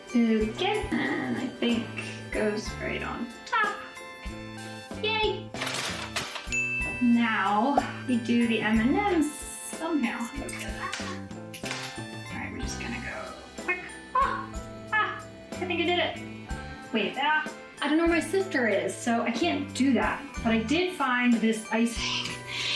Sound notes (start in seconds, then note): 0.0 cheery music; 6.4 pinging